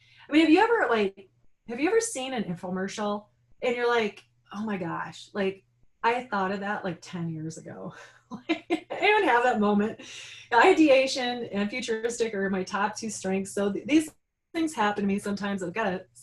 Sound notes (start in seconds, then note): 7.7 laughing